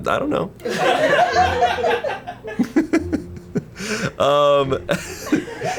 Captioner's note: and colleagues laughing